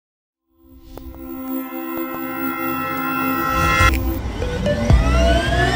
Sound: sound of CB Aviation into logo; sound of Pilatus PC-12 starting up

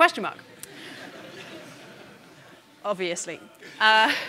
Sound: audience laughing

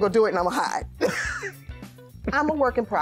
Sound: laughs

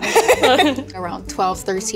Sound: all giggling

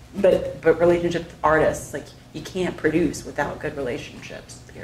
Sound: none

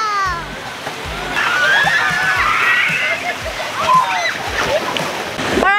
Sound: kids screaming

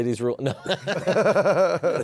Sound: laughter

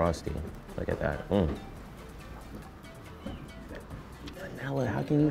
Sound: grunts with satisfaction

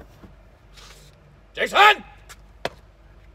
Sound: shouts

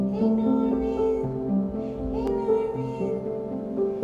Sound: gentle music; cooing

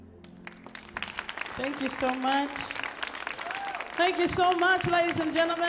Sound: audience applauds

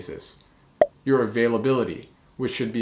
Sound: bubble popping

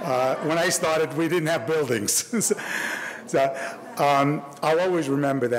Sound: audience laughing; laughs

